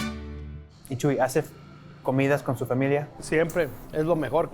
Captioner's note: in Spanish